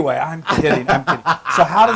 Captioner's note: laugh